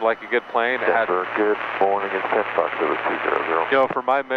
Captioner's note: man mumbles over radio